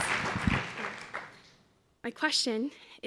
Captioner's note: applause